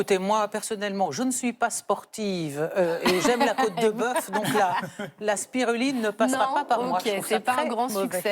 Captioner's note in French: rires